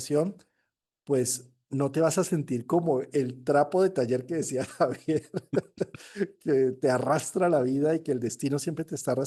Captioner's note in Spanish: risas